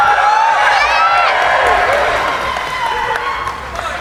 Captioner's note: cheering